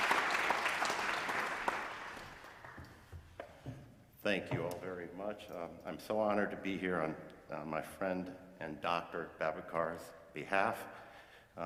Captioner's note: applause